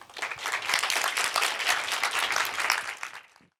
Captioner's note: applause